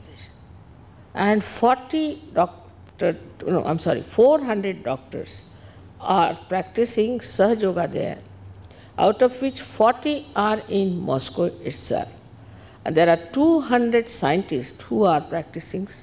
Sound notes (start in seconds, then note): none